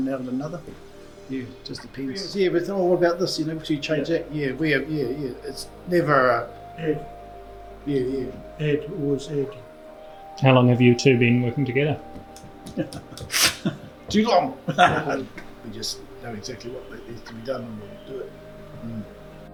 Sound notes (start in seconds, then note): 12.3 laughs